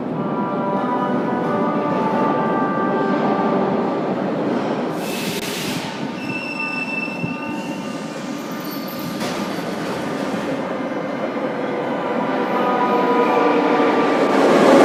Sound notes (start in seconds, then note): 5.3 arrival of train at the station; 5.9 opening doors